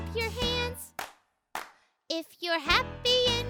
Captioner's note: Marvie clapping